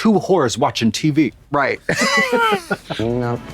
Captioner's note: blonde Women giggle